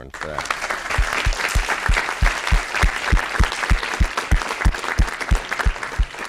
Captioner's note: applause